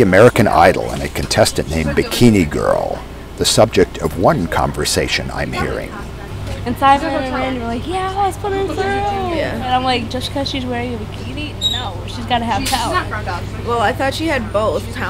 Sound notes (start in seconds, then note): 5.8 girls Talking